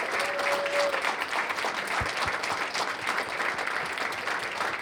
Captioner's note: cheers and applause